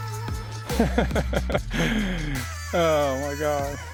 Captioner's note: laughing